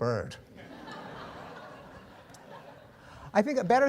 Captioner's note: laughter